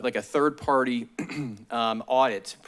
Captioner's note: clears throat